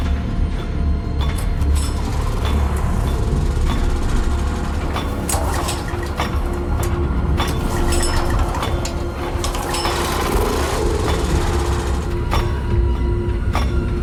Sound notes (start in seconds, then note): 1.8 generator rumbling; 3.9 generator chocking; 9.9 generator rumbling; 11.4 generator chocking